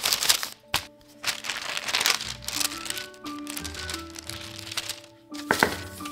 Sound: crinkling

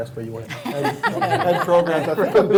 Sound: laughing

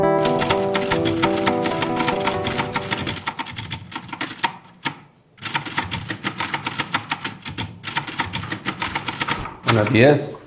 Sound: typewriter

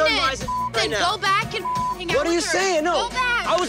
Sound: beep

